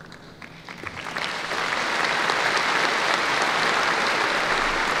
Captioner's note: applause